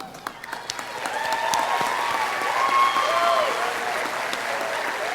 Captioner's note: audience cheering